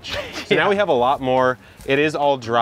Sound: laughing

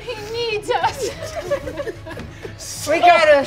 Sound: all chuckling

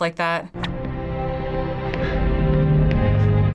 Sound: orchestral music; person gasps

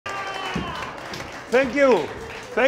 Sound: audience applauding

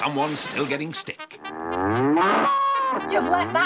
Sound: moo-woof!

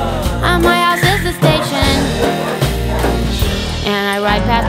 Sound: tires screech

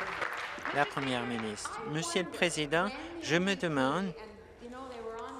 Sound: applause

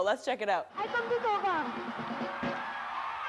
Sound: speaking Trinidadian language; crowd cheering, upbeat music playing

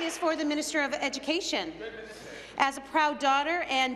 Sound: applause

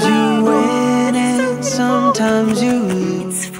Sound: excited noises

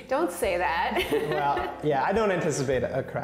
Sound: laughs

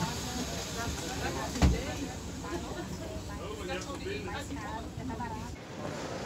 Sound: doors closing; people chatting; airport sounds

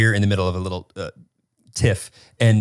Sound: none

